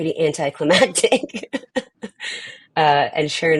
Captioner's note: chuckles